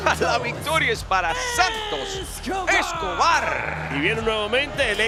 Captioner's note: laugh